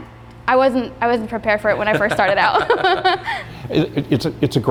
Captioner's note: laughing